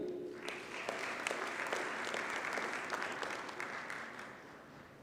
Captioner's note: audience applauds